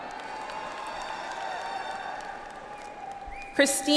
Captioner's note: audience applauds